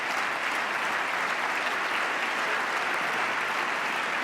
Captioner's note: applause